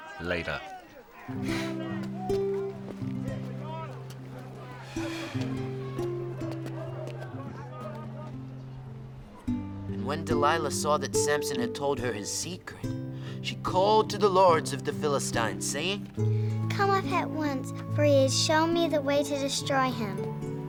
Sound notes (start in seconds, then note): 1.3 somber music; 5.4 Daniil exhaling